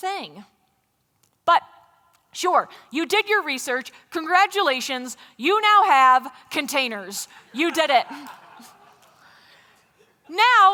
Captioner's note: laughter